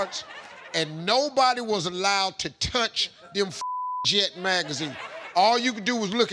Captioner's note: beep